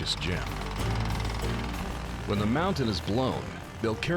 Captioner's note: drilling